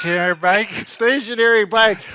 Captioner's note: laughing